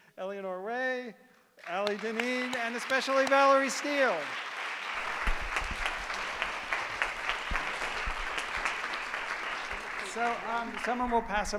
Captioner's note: applause